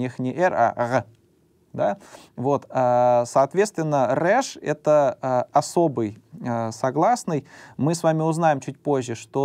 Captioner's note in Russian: сопит